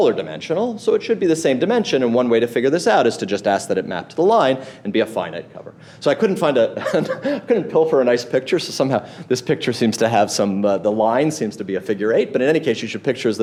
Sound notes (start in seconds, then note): 6.7 laughs